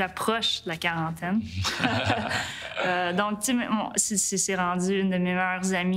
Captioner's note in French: rires